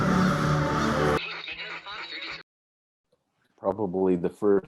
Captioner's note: radio signal